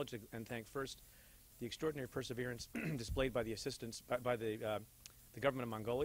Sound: clears throat

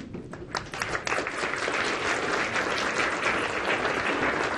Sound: participants clapping

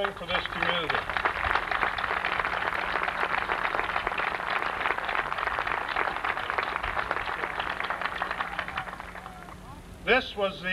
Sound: applause

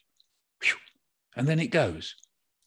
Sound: makes whooshing sound

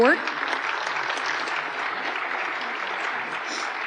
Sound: applause

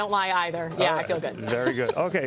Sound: laughter

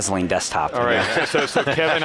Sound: laughing

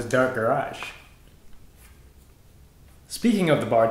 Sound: awkward silence

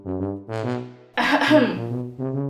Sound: coughing

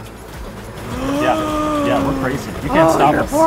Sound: gasps

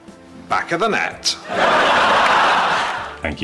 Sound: TV show laughter

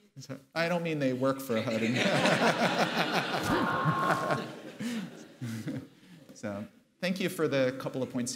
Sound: laughter

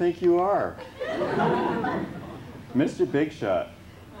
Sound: laughter

